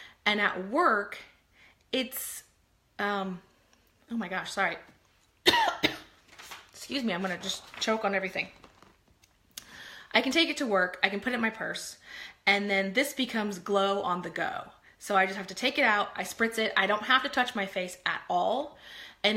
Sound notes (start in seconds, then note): 5.4 coughing